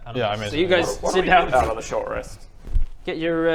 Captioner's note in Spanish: pffmf